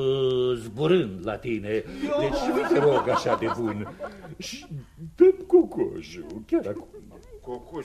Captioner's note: laughter